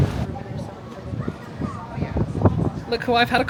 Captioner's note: wind whipping; crowd chattering